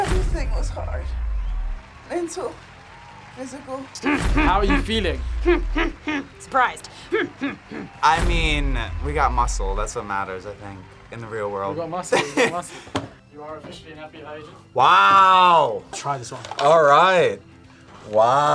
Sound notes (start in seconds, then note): 4.0 grunts; 7.4 grunts